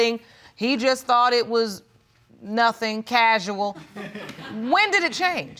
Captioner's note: audience laughs